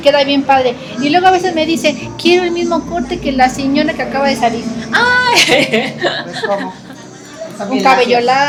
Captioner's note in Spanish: risas